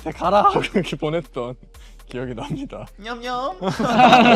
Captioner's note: laughs